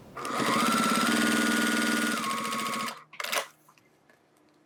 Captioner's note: sewing machine whirring